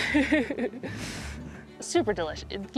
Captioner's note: laughter